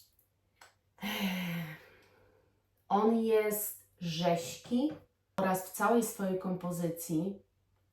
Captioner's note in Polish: westchnienie; wciągnięcie powietrza